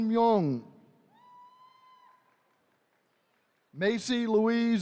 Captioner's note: attendees cheering